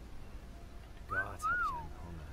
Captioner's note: whistling sexily